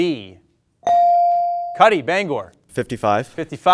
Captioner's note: bell dings